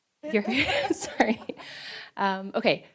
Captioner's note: laughter